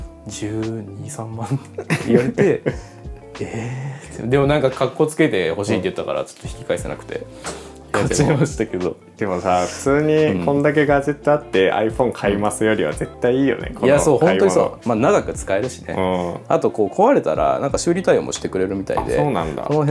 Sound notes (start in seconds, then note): 1.7 laughs